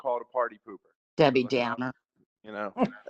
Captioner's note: laughter